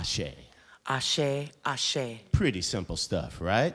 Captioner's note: speaking in foreign language